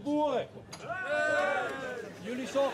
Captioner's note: cheering?